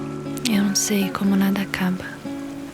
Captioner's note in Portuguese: em off